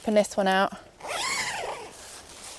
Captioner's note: zipper opens